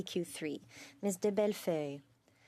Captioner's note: speaking French